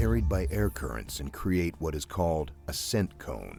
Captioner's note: voiceover